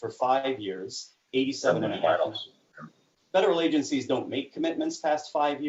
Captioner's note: distorted sound